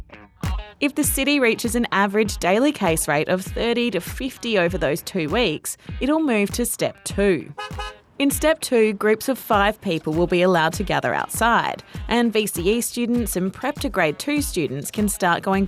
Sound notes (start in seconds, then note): 7.5 honk-honk!